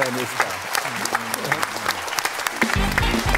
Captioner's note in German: Applaus